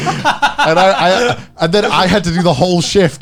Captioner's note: laughing